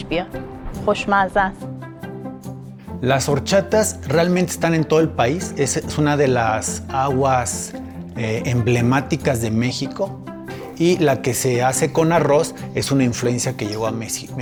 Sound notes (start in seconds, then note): 3.1 man speaking in foreign language